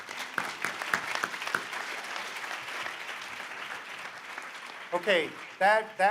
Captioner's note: applause